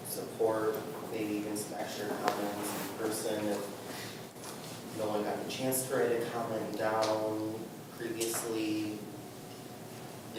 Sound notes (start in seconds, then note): none